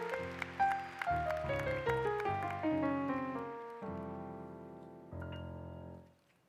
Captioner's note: applause